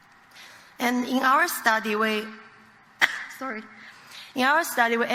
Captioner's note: coughs